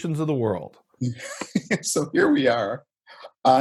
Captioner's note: laughing